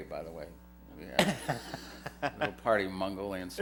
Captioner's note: laughter